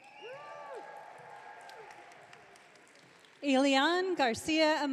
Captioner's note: audience cheering